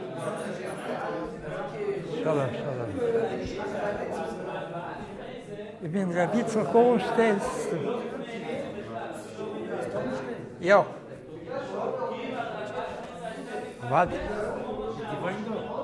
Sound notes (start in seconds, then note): 6.4 Yiddish